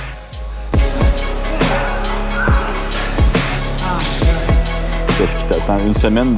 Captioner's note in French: efforts